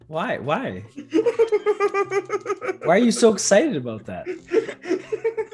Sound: laugh

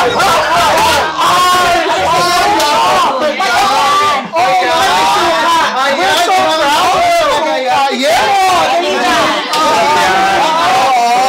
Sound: cheers

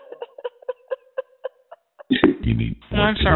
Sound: laughter

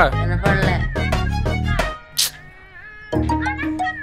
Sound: mobile ringing

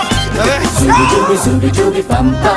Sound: scream

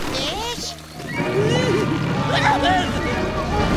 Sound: shrieking

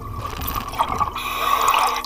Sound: water bubbling; breathing

